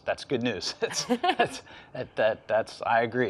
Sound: laughs

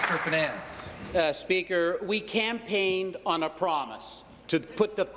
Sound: applause

